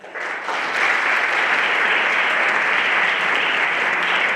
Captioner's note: everyone applauding